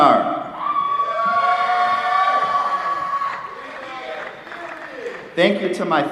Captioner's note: applause